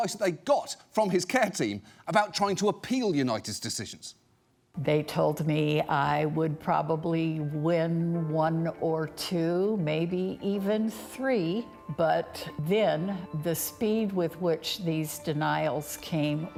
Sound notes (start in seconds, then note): none